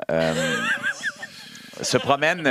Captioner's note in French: rires